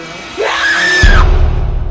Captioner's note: screaming